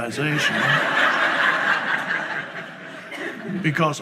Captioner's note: audience laughs